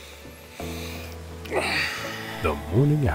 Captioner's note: Brett sighs